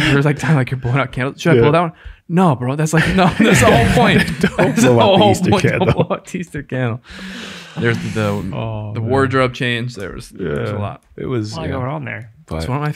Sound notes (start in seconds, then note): 4.8 all laugh